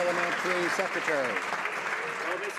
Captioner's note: some Applause